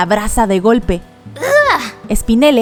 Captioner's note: disgusted growl